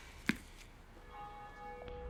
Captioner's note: church bell ringing